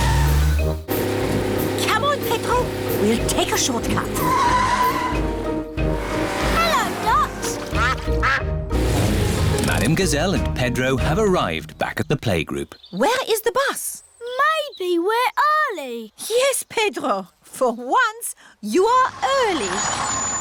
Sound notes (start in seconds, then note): 7.6 quacking